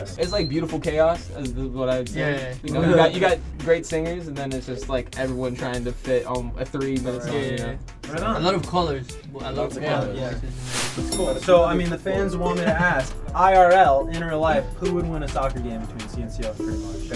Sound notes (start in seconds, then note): 10.7 elevator dings